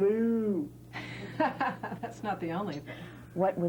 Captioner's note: laughter